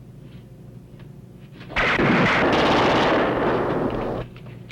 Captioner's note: gunshots